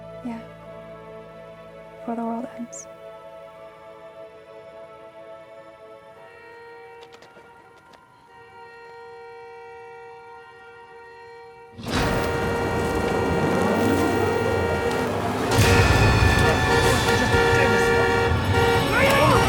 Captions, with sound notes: - Yeah. Before the world ends. (car horn honking) (car horn honking continues) (intense music)